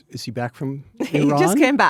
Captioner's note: Anna laughs